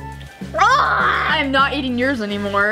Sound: gags

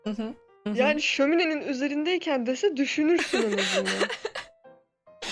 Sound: chuckling

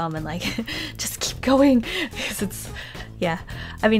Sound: laughs

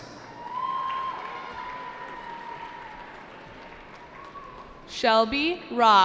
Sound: cheering

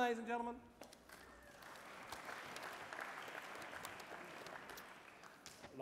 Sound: applause

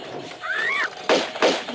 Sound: birds noises

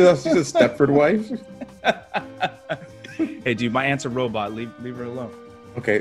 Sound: laugh

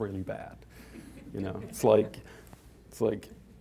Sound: audience chuckling

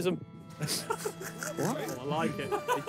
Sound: players laugh

